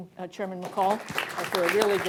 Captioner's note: applause